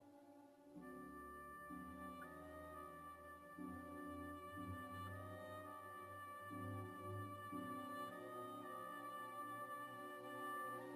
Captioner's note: speaking French